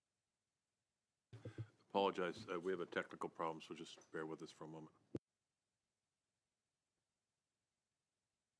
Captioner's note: silence